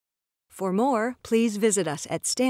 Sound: robotic Female Voice

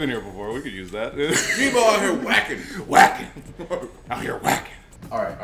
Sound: laugh

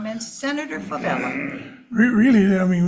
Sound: chuckles

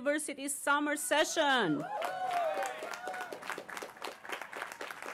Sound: applause

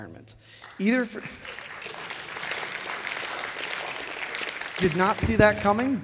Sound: applause

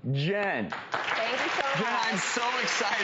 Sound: crowd applauds; crowd applause drowns out speaker

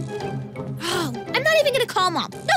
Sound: sighs

